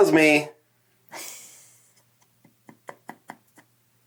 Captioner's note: laughs